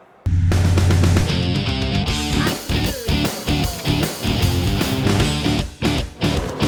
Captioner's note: engine roaring; upbeat rock music